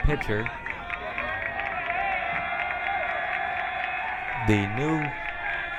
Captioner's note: crowd cheering